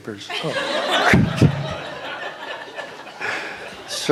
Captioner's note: laughter